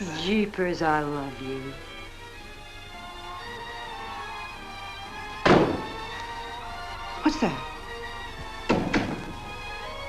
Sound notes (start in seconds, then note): 2.8 record Playing; 5.4 Chris drops suitcase; 8.5 door closing